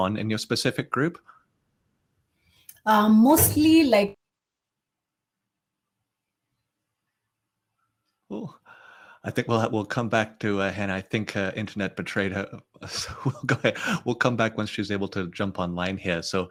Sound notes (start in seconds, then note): 12.8 chuckles